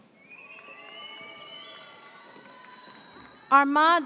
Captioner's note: audience cheers